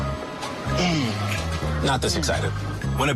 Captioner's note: grunting